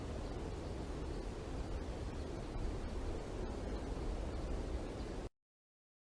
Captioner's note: air conditioning